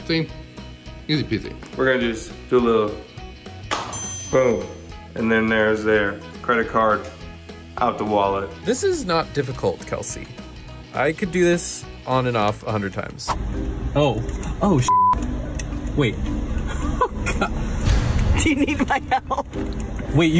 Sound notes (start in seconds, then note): 3.8 dinging; 14.8 beep; 18.6 laughing